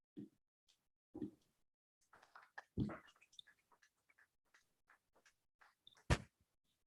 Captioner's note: applause